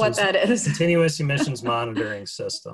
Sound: laughs

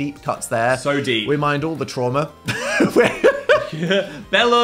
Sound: laughing

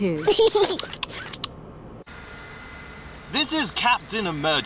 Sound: snorts; giggles

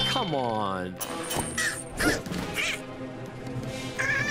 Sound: huffing and puffing

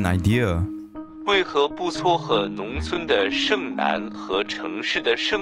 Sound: in Mandarin

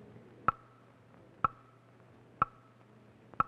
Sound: clock ticking

